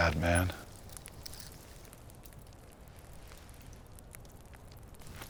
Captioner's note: fire crackling